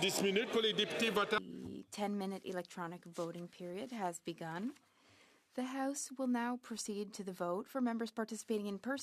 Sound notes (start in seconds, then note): 2.3 speaking French